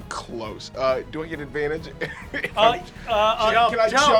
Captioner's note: laughing